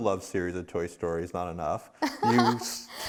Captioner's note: laughs